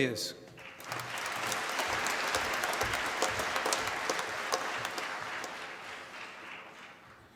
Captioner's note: applause